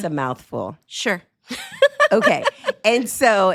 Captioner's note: chuckles